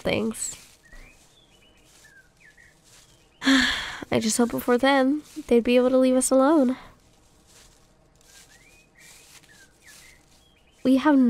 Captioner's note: sigh